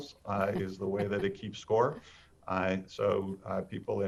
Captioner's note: chuckles